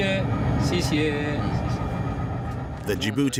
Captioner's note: conductor speaking foreign language